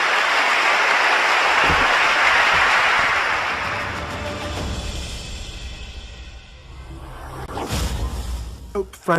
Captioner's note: applause, background music